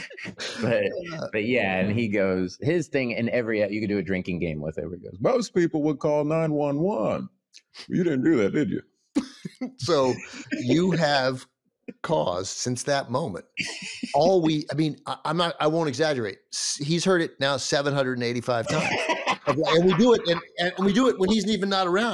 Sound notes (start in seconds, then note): 9.8 laughs; 18.6 laughs